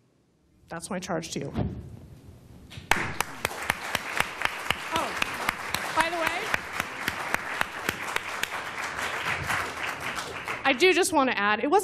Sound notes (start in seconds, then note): 2.8 applause